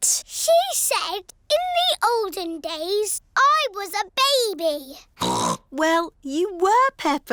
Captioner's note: snorts